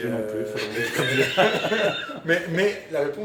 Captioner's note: laughters